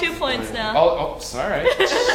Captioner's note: laugh